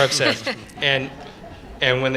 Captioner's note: laughter